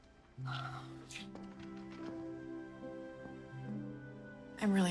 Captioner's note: sighing